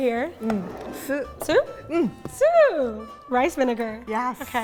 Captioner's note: speaking in Japanese